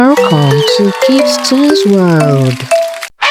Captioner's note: happy giggles + claps